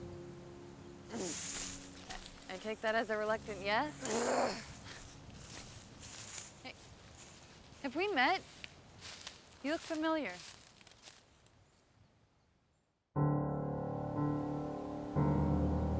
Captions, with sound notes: I take that as a reluctant yes? (Mackenzie growls) Hey. Have we met? You look familiar. (ominous music)